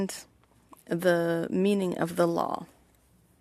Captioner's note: speaking French